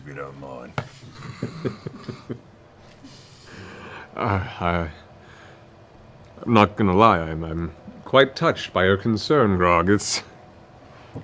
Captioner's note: chuckles